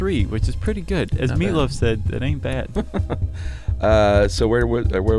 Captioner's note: laughs